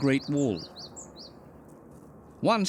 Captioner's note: bird chirping